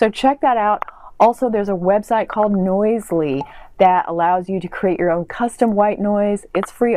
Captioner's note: pop